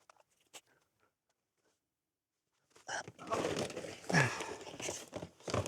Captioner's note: grunting